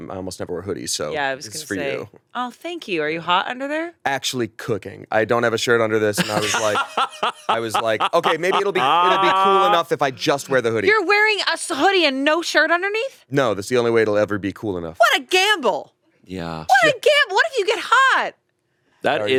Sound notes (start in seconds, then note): 6.2 both laughing